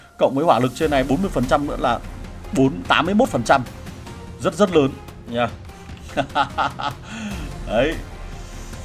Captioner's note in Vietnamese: tiếng cười